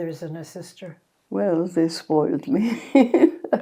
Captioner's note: laughing